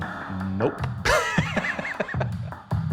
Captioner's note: laughs